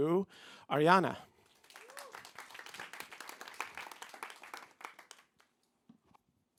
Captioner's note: applause